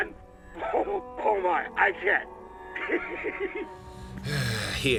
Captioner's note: laughing